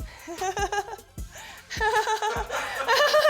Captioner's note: laughing